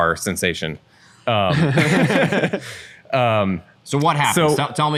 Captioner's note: laughter